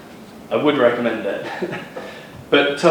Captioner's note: chuckles